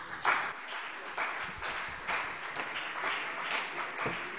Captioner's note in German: Beifall CDU und BÜNDNIS 90/DIE GRÜNEN